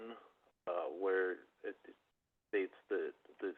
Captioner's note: by phone